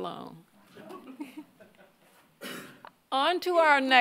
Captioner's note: audience laughing